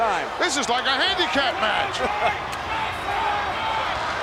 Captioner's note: laugh